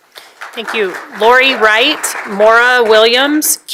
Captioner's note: applause